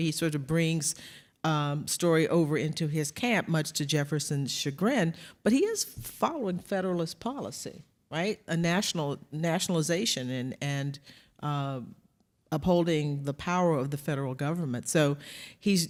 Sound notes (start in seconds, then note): none